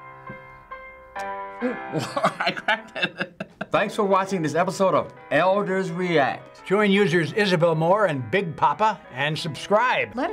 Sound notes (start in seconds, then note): 1.7 laughs